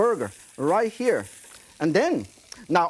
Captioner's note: oil sizzling